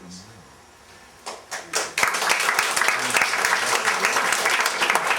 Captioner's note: applause